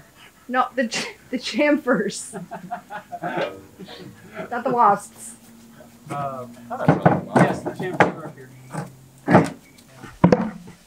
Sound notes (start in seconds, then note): 2.2 laughs; 4.0 laughing